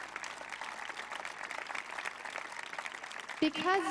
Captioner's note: applause